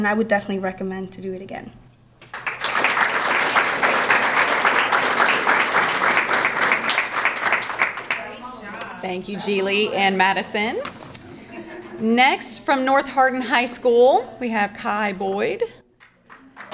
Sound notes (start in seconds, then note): 2.2 crowd clapping; 7.9 background chattering; 16.0 crowd clapping